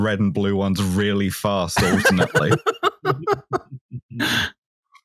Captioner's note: laughter